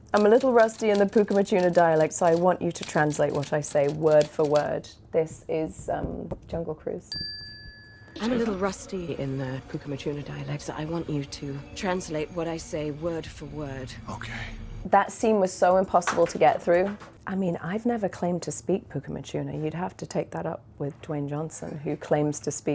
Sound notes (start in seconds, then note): 7.1 bell dinging